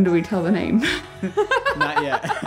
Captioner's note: both laughing